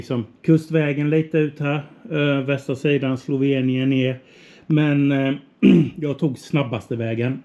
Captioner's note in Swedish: harklar sig